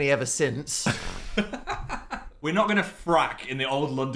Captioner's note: Phil laughs